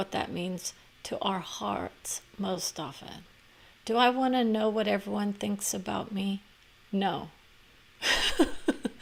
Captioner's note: laughter